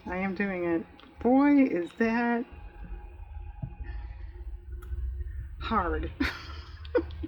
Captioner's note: laughs